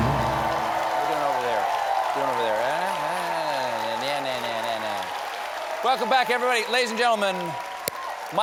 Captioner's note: applause